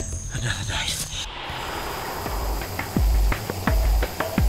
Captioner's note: helicopter blades whirring